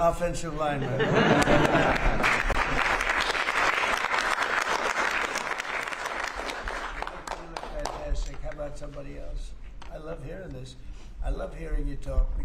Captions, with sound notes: offensive lineman. (applause) You look fantastic. How about somebody else? I love hearing this. I love hearing you talk